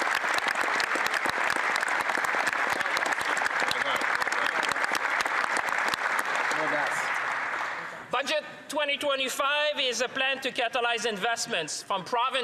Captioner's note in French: applaudissements